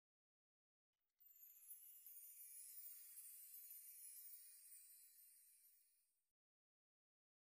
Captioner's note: shimmery sound